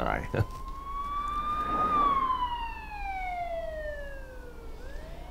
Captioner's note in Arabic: صافرة الطوارئ تنطلق